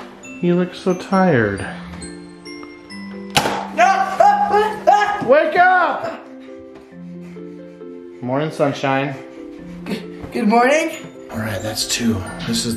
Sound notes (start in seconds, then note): 3.7 screaming